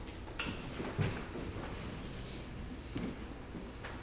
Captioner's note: feet thudding